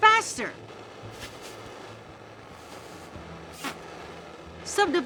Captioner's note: air whooshes